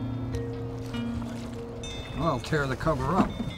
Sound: wind chimes

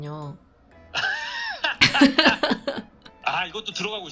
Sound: laughing

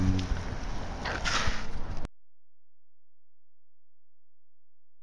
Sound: crash

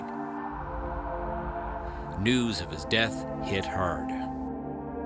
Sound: sound of siren

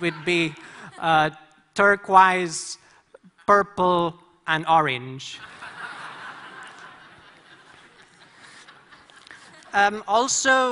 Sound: laughter

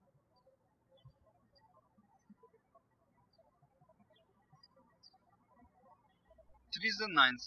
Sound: bird chirping

